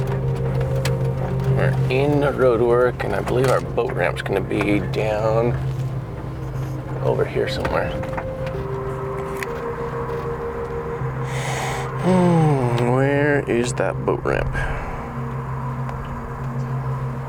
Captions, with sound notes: - We're in roadwork and I believe our boat ramp's gonna be down over here somewhere. (sighs) Where is that boat ramp?